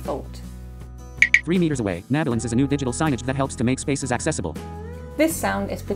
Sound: click. Click

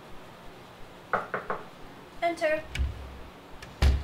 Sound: knocking

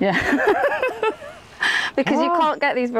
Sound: laughs

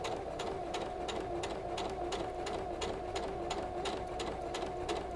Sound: sewing machine whirs and clicks

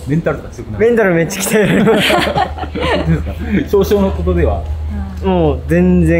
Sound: laughs

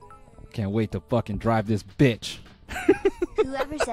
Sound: laughs

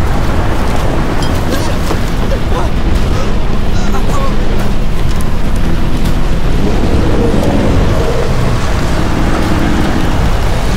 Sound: wind howling

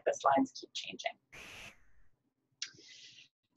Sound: static

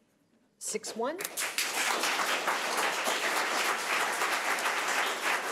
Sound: audience applauding

